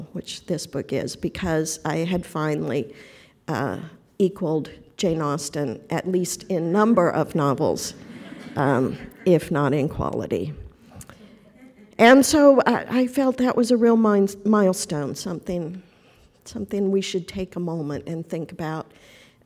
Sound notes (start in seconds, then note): 7.9 laughter